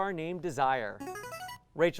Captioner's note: ringing